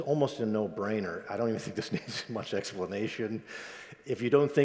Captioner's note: laughs